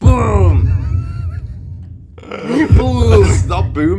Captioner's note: laughing